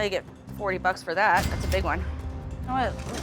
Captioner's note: cash register dings